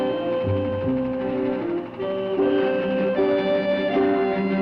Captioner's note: machinery whirring